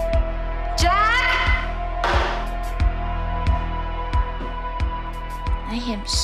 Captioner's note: flask slams